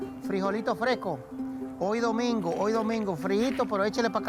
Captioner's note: speaking Spanish